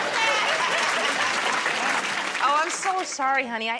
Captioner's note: applause